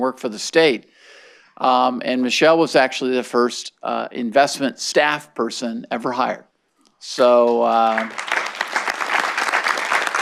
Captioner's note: clapping